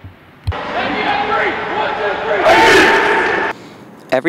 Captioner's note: cheering